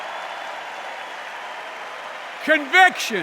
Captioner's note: applause